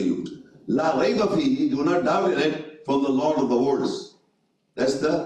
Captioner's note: reading Arabic